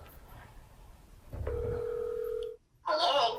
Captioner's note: phone ringing